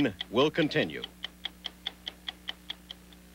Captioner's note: clock ticking